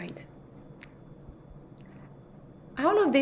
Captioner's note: white noise